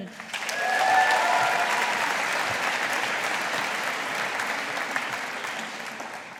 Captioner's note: audience applauding